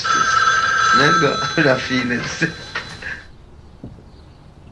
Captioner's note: telephone rings